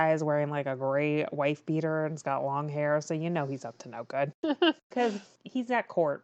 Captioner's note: laughs